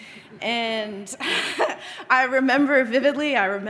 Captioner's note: chuckles